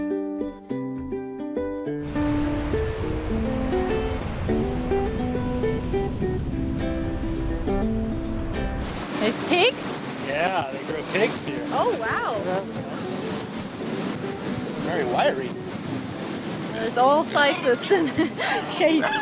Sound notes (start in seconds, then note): 0.0 man speaking in foreign language; 0.2 upbeat music; 2.4 waves crashing